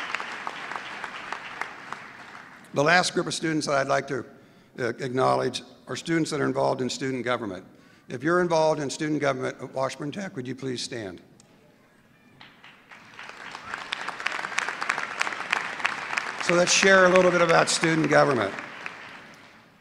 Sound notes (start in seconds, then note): 12.4 applause